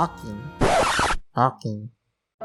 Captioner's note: record scratch